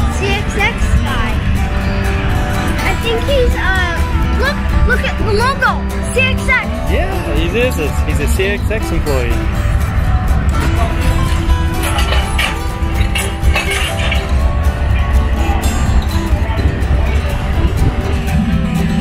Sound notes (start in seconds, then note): 9.6 country music; 11.6 metal bang; 13.6 country music